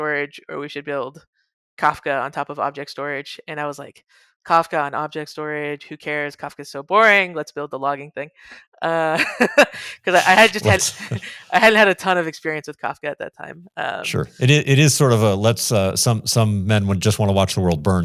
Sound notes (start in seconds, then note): 9.2 laughs